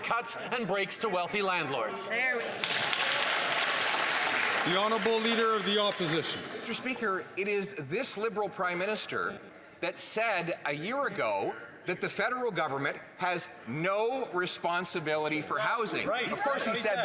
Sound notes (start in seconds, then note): 5.2 some Applause